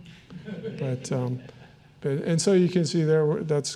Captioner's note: audience chuckling